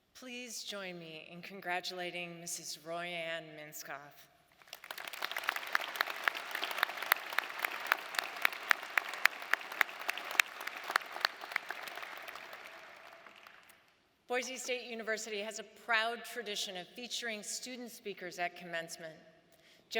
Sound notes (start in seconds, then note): 5.1 audience applauding